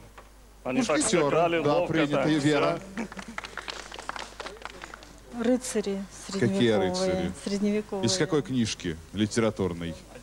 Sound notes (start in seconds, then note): 2.8 applause